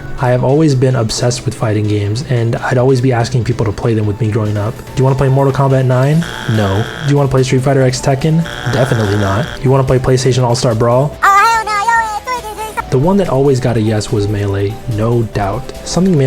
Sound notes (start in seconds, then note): 5.6 buzzer sound; 8.5 two buzzer sounds